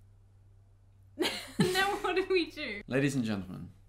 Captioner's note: both laugh